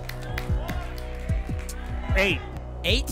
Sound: audience shouting numbers

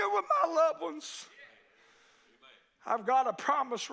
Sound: congregation shouts agreement

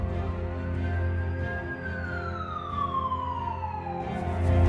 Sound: sirens blaring

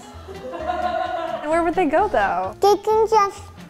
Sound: laughing

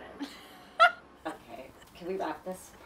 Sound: host laughing

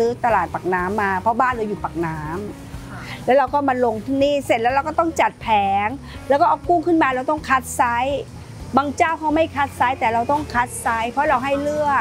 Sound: speaking Thai

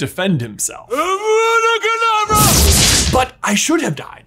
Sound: powerful explosion

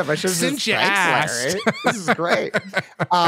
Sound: laughs

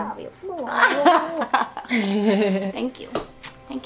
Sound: kissing noises

